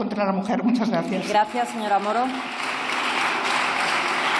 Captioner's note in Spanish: Aplausos